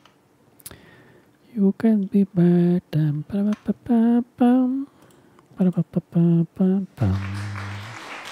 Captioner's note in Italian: Applauso